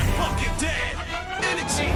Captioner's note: whooshing